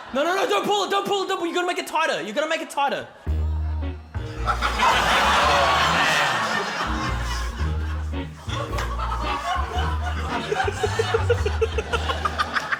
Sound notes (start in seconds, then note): 4.7 laughter; 7.7 quirky music; 10.7 laughs